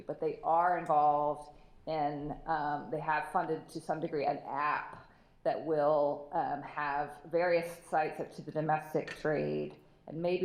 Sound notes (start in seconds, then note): none